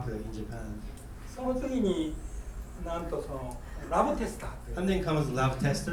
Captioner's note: speaking in foreign language